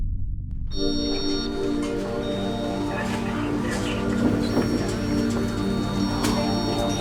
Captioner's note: people chattering